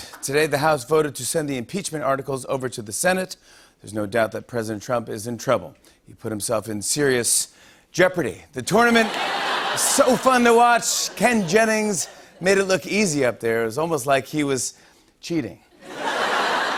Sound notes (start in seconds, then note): 8.7 laughter and cheering; 15.8 laughter